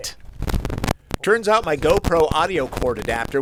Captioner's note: sound of very scratch bad audio